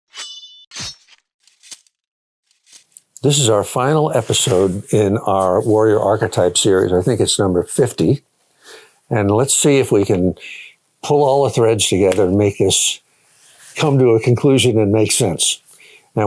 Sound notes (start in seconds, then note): 0.1 sword slashing